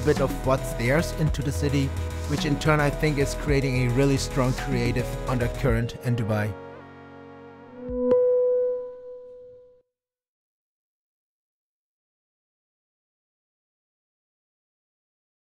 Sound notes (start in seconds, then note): 7.6 electronic tone chiming